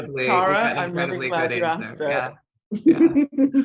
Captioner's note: laughing